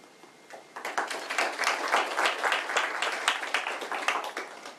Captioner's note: applause